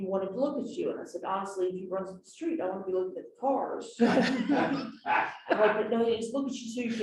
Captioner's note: laughter